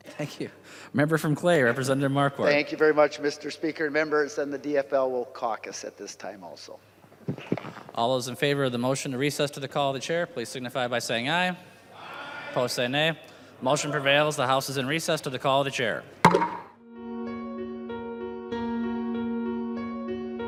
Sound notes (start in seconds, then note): 16.3 chorus of ayes